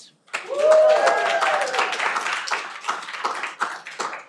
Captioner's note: cheering